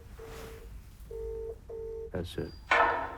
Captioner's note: computer beeps